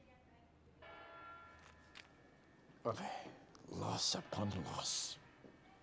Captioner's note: bell tolling